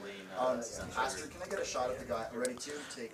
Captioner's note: indistinct chatter